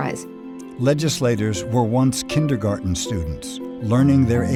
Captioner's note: voiceover